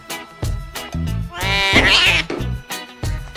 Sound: tabby and white Cat Yowling

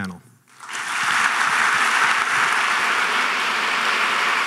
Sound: audience clapping

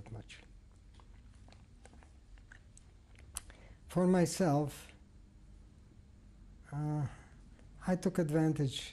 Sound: pauses for 3 seconds

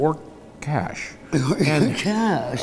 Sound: laughing

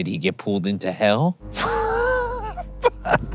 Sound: laughing

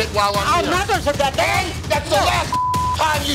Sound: shouting

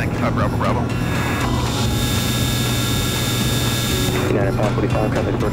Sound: plane engine buzzing

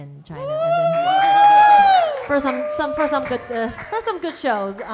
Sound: audience cheering

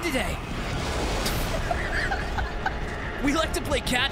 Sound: car explodes; laughs

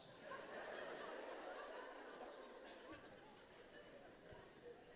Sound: audience laughing

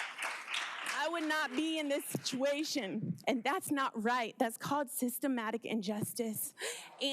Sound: applause

